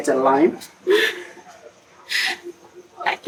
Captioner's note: laughs